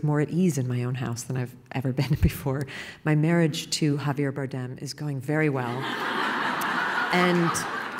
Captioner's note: laughing